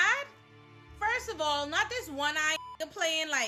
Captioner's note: beep